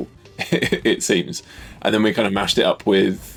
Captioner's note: laughs